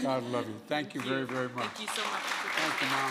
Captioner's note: applause